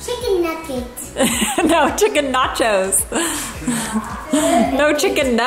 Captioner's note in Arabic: تضحك